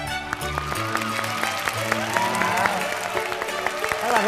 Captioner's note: clapping